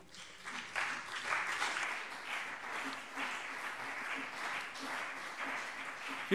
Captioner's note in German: Beifall CDU und BÜNDNIS 90/DIE GRÜNEN